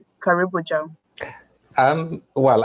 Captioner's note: speaking swahili